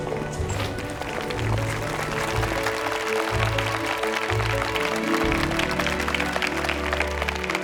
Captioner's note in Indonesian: Tepuk tangan